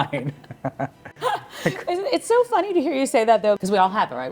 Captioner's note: laughing; laughing happily